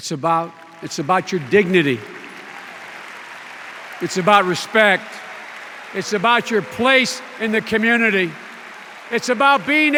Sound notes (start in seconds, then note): 8.3 extended applause